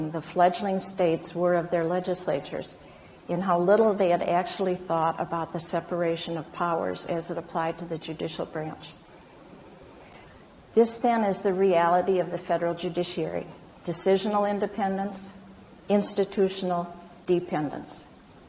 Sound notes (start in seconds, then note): none